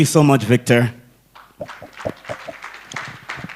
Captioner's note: applause